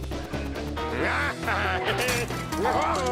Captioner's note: cackling